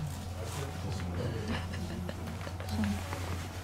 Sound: laughing

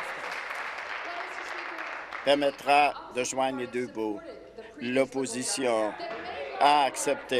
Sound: applause

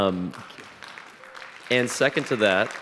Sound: clapping

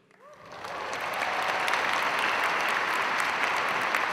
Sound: audience applauds

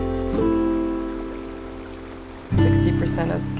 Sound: stream rushing

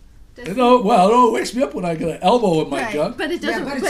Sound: voiceover

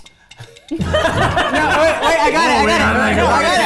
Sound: everyone laughing

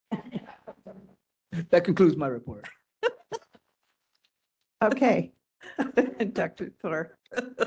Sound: laughing

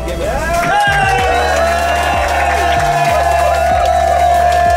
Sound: victorious cheering

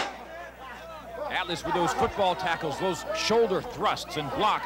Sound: crowd yells encouragement

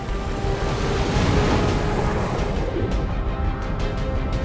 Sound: water rushing in

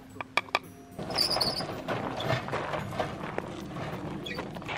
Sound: wheels squeaking

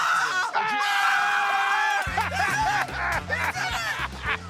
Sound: screaming

